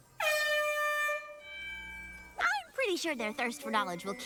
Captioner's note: air horn blares